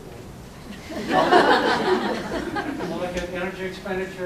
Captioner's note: laughter